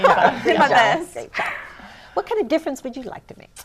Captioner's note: laughter